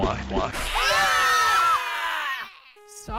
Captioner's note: Are You Okay screams